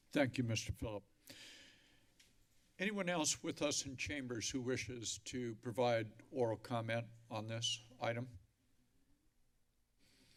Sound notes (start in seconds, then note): 1.2 inhales deeply; 8.6 silence